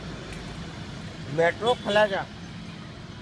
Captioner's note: man speaking Hindi